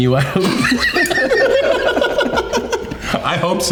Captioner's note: all laughing